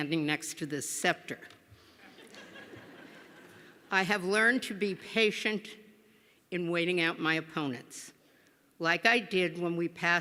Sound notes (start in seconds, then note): 2.0 laughter